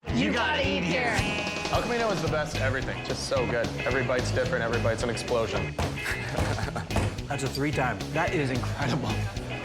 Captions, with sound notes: - You gotta eat here. (jaunty blues music) - El Camino has the best everything. Just so good. Every bite's different. Every bite's an explosion. (fist banging) - That's a three timer. That is incredible.